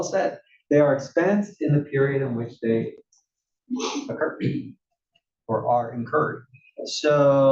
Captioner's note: cough